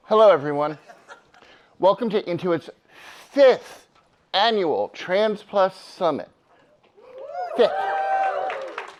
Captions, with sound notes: - Hello, everyone. (attendee laughs) Welcome to Intuit's fifth annual Trans+ Summit. (audience cheers) Yeah.